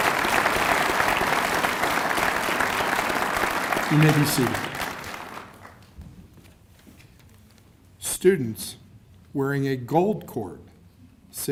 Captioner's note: cheers and applause